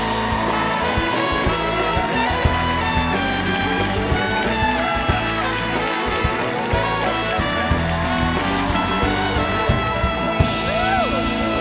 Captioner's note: cheers and applause